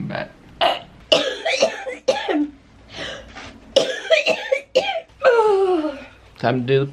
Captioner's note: coughing